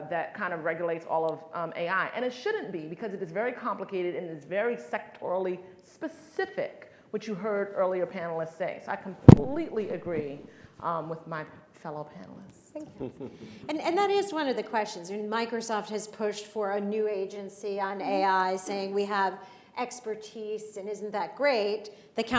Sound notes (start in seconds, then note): 13.0 chuckles